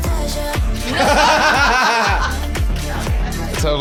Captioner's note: laughing